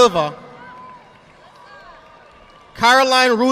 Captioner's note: audience applauding